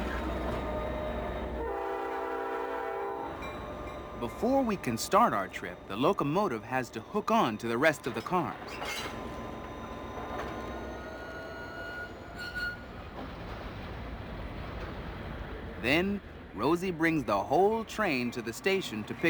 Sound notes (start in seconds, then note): 1.9 train whistle blaring; 3.5 train bell clanking